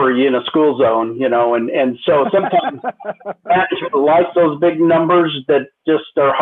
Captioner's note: laughter